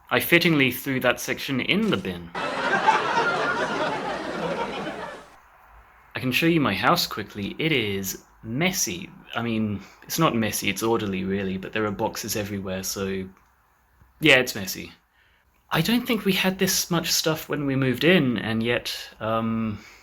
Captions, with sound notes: I fittingly threw that section in the bin. *Live audience dies of laughter* I can show you my house quickly, it is messy. I mean... it's not messy it's orderly really but there are boxes everywhere so yeah it's messy. I don't think we had this much stuff when we moved in and yet um...